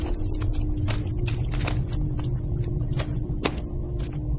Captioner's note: glass crunching